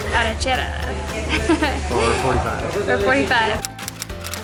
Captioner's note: laughter